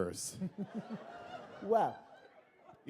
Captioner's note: laughter